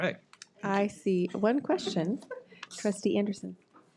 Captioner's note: audience laughs